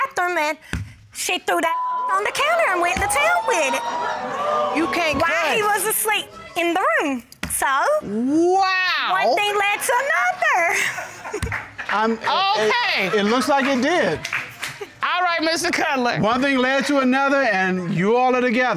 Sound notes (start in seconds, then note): 1.7 audience exclaims, hoots; 10.0 audience laughs, applauds